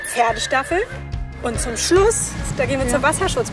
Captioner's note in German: Wiehern